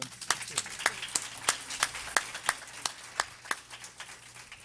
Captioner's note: everyone applauding